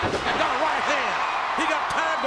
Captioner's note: audience cheers